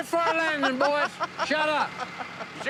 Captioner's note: laughter